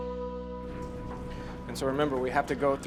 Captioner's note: door rattling